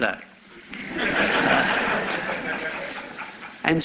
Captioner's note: laughter